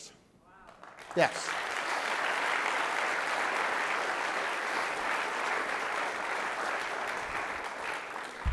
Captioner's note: clapping